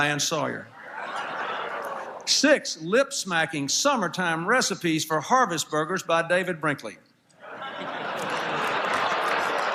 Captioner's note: laughter